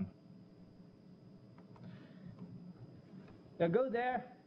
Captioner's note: pause